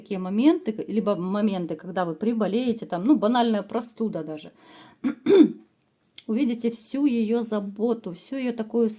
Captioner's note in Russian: откашливается